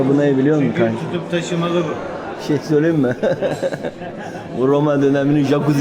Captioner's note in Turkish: kahkaha